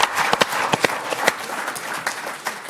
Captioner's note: people applauding